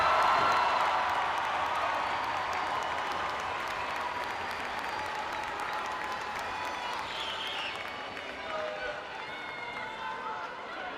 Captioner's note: applause, cheering